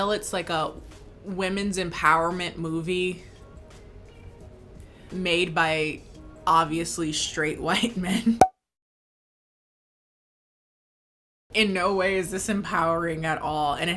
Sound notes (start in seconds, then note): 8.5 popping